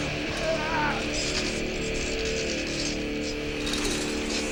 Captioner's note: man groaning